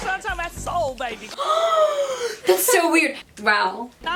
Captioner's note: gasp